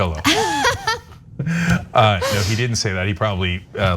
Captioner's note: laugh